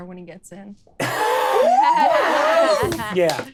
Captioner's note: all laughing